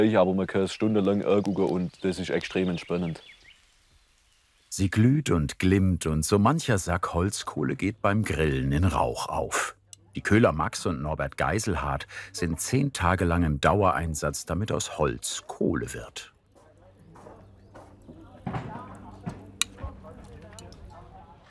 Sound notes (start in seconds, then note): 17.1 conversations in the background